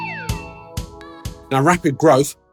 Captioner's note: text whooshing